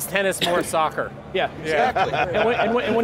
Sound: laughs

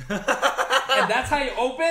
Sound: laughs

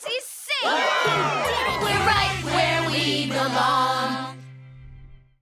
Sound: cheering

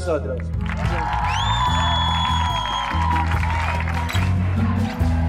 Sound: applause, whistles and cheers

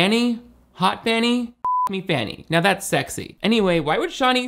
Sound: beep

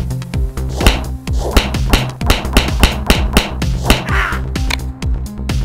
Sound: repeated punching

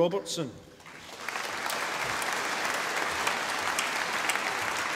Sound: audience applauding

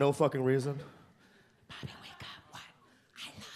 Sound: whispers

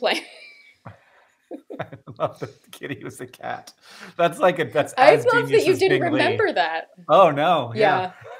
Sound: laughter

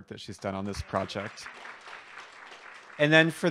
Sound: applause

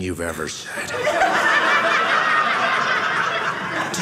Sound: audience laughing

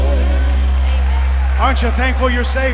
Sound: audience applauds

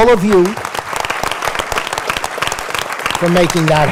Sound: applause

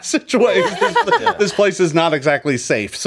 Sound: player laughs

